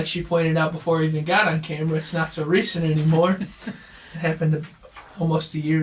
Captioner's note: chuckles